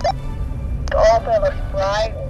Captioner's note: on walkie-talkie